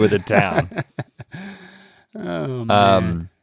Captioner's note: Link chuckles